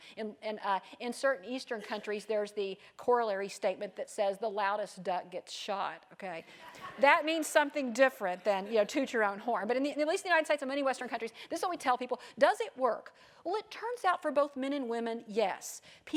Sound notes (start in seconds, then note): 6.0 laugh